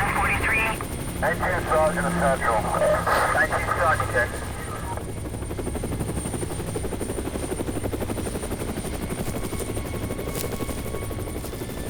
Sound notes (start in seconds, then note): 1.3 muffled officer speaking; 5.1 gentle orchestral music; 5.1 helicopter whirring